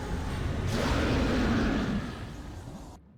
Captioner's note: dragon roar